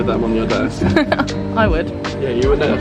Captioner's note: laughing